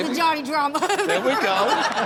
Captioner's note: Chanel laughs